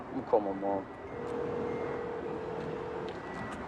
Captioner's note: line ringing